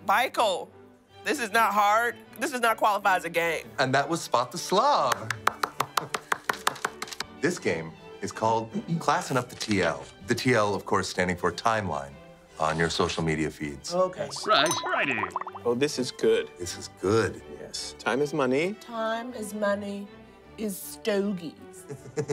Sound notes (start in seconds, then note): 5.0 applause; 14.5 british Voice